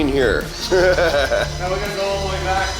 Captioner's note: laughs